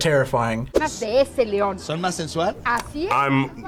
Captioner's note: group speaking in Spanish